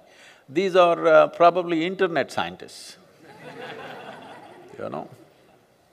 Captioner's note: laughter; 笑聲